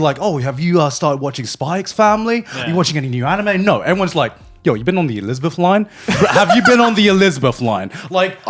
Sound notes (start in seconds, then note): 6.1 laughing